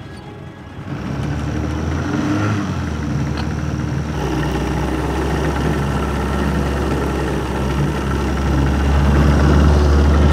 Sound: boat engine humming

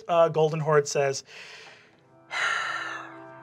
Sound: grave orchestral music; sighs

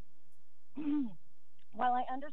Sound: clears throat

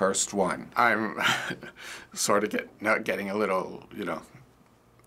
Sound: choked up

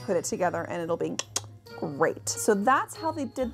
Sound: tongue clicking

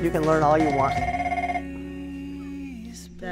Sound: phone ringing

